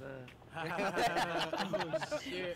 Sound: all laughing

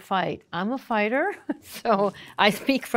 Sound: chuckling

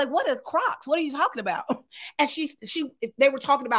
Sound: chuckles

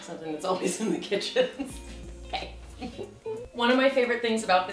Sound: laughing

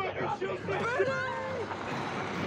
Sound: yelling

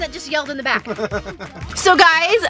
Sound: laughing

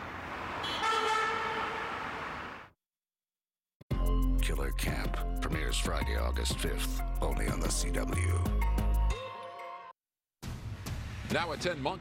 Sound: car honking

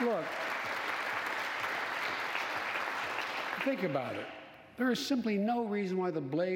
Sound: applause

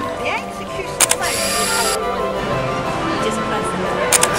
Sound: camera shutter

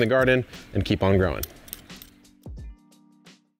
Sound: peeler peels beets

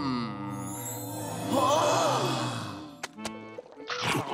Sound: gasping

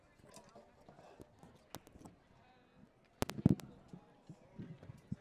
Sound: overlapping chatter

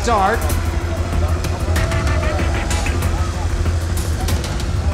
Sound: car motor running

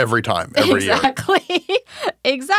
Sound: laughing

